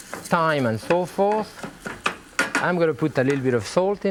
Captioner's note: spatula bangs